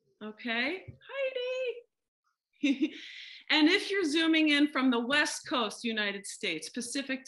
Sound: laughter

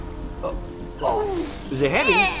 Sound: grunting

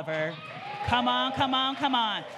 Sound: audience cheering

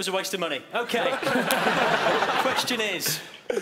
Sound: laughing

